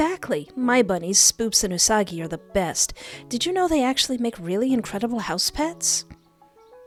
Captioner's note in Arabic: none